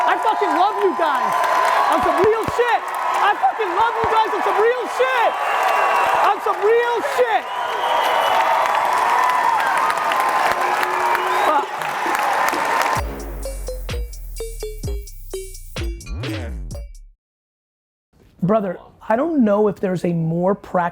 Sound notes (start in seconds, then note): 7.7 audience applauding; 12.9 hip hop music